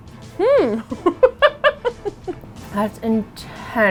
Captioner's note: laughs